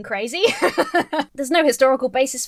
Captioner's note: laughs